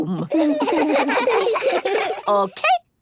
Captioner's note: laughs